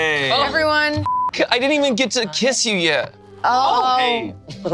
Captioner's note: beep